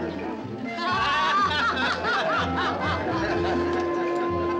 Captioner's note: woman and man laugh